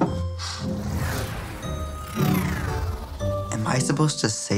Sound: loud whooshing

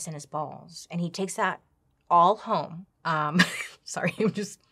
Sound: laughs

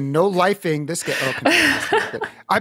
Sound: laughs

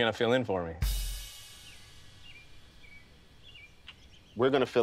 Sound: birds chirping

